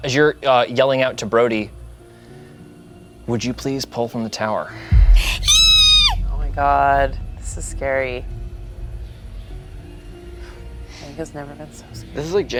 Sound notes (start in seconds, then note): 5.0 squeals; 8.9 intense music